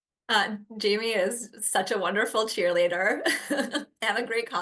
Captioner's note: chuckles